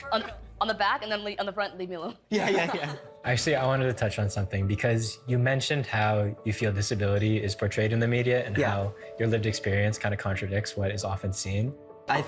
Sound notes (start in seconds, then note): 2.3 all laughing